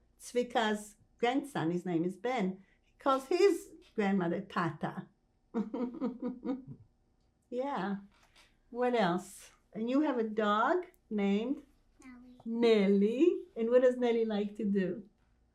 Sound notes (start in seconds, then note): 5.6 laughing